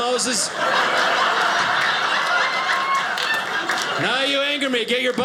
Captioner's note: audience laughing